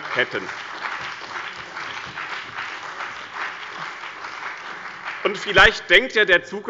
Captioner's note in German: Beifall bei dem BÜNDNIS 90/DIE GRÜNEN und der SPD